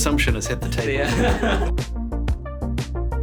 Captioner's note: everyone laughing; bright music